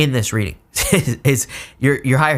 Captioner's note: speaker laughing